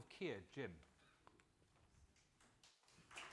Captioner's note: applause